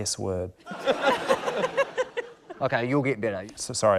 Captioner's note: laughter